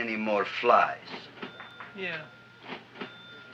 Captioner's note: cash register ringing